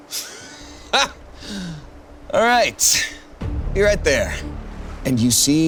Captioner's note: laughs